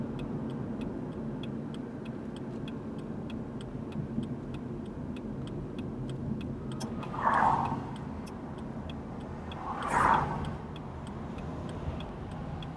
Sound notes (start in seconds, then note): 0.1 blinker flashing; 6.9 cars passing